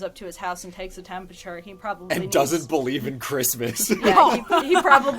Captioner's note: laughs